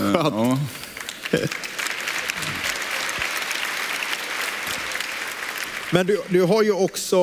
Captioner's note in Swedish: publiken klappar händerna